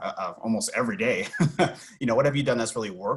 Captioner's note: laughs